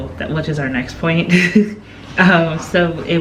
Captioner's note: chuckling